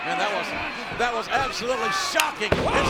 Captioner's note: blow thudding